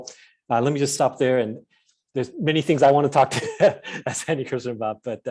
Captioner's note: chuckles